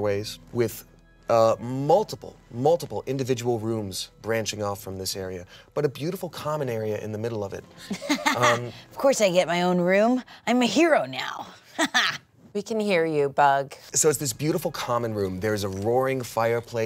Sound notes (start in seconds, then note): 7.8 laughs; 11.8 laughs